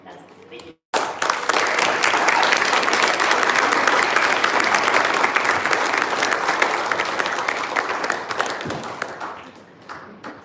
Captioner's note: applause